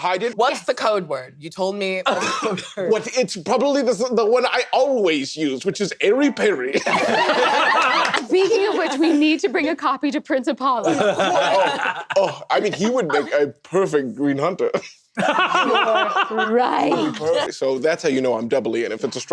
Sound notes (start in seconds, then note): 10.8 laughter; 15.2 laughs